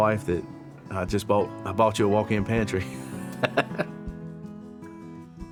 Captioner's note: laughing